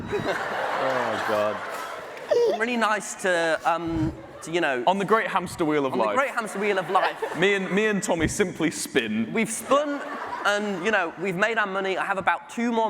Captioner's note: laughter